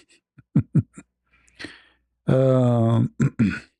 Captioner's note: ketawa